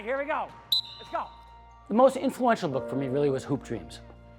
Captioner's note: whistle tweets